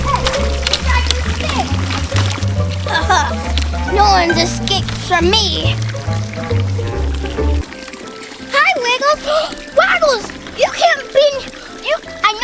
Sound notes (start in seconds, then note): 2.8 laughs; 9.2 gasps